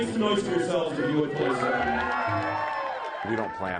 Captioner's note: cheering